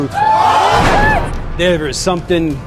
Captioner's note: audience exclaims in disbelief